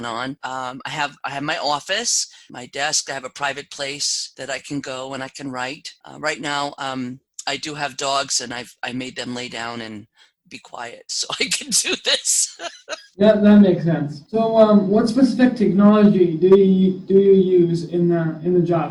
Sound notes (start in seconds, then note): 11.2 laugh